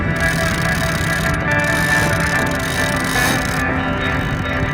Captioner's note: cogs turn